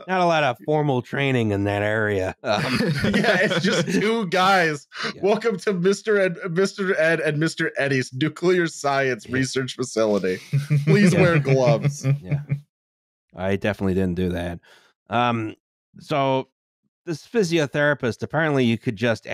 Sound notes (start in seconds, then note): 10.3 laughter